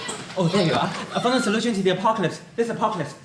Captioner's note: yells